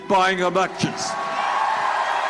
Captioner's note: cheering and applause